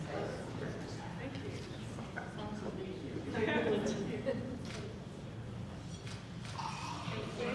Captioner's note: speaking off mic